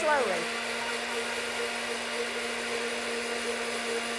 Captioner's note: blender whirring